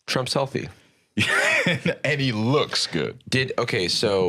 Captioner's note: laughs